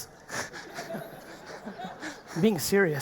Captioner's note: audience laughing